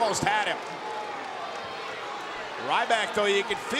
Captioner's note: audience chattering